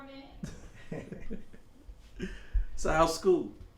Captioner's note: men laughing